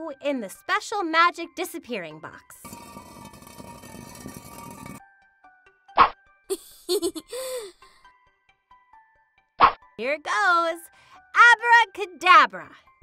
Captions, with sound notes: in the special magic disappearing box. (box scraping) (Chelsea giggles) Here it goes! Abracadabra!